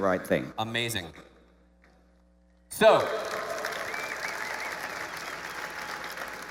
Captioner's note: applause